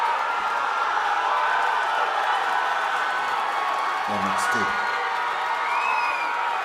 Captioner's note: cheers and applause